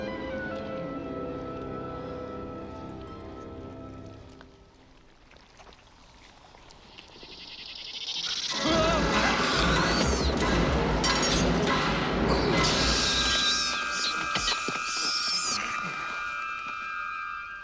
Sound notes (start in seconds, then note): 4.8 squishing sound; 8.3 hissing; 10.3 yelling; 13.2 squealing